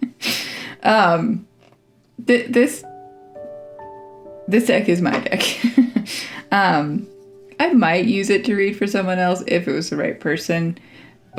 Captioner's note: laugh